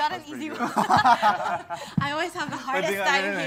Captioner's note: laughter